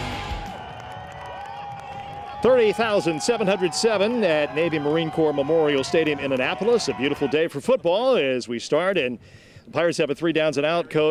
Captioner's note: cheers and Applause